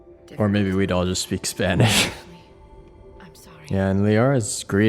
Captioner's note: laughs